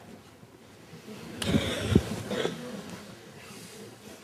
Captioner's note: laughter